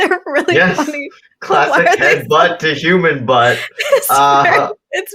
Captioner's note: laughter